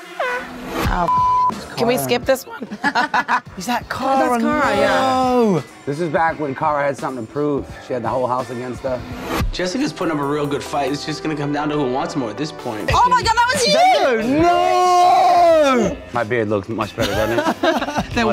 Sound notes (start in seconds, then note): 2.6 laughing